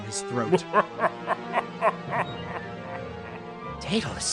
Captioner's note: chuckles